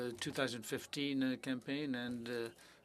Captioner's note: speaking French